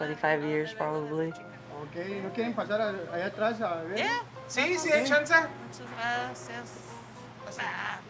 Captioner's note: foreign language